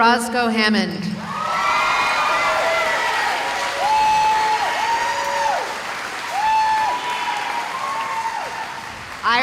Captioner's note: cheering